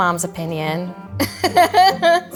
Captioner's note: laughing